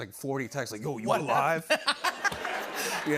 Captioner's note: laughter